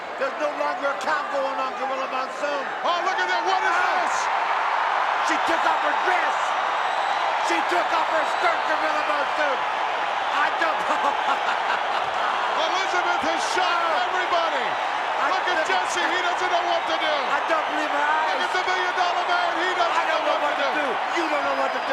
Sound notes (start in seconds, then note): 10.0 audience cheering; 10.8 Billy laughing